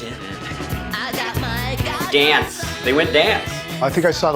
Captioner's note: hums